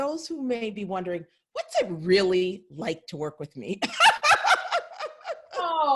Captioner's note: laughs